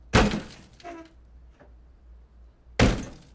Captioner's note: chair creaking